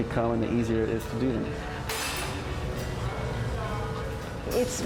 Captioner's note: tools clanking